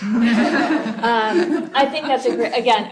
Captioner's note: laughter